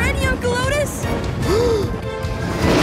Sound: gasp

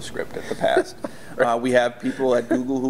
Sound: laughs

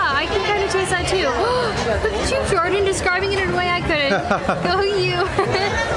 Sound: laughter

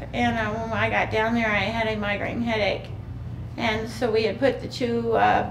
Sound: none

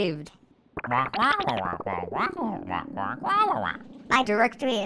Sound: interrogatingly squawking

